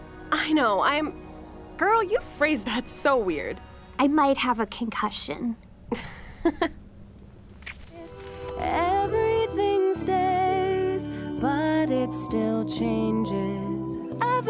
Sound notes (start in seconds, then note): 5.9 Marceline laughs; 7.6 lips smacking